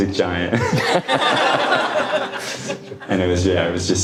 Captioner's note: audience laughing